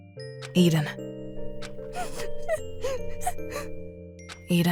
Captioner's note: sniffling